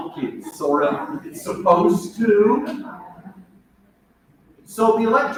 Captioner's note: multiple voices respond